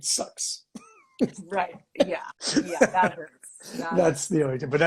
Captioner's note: laughing